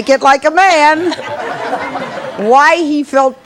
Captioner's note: audience laughing